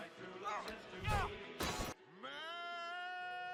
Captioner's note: the lamp hits the radio with a thud